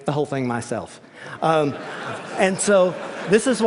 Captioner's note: laughter